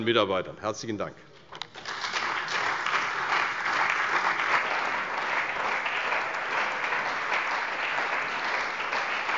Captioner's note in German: Beifall bei der CDU und dem BÜNDNIS 90/DIE GRÜNEN